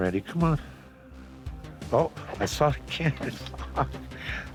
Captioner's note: chuckles